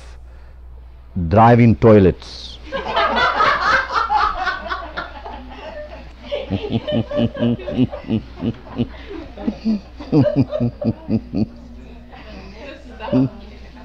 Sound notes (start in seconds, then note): 2.7 much laughter